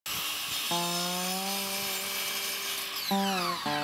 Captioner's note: saw buzzing; slow slide guitar music